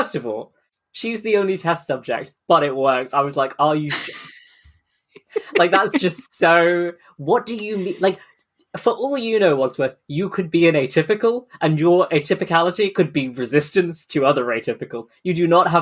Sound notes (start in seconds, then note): 3.8 laughs